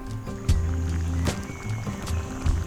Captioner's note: bubbling